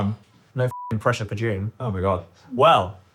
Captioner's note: beep